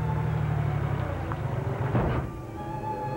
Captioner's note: crash